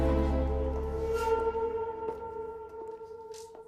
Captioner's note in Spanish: Susurro